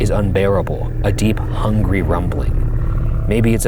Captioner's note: creature growling